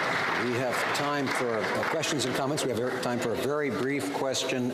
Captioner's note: some Applause